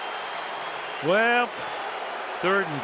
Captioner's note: cheering